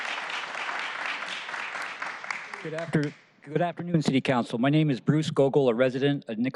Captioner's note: applause